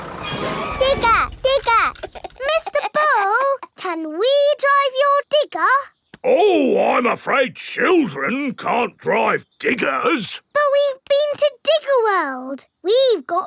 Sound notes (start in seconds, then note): 1.9 chuckles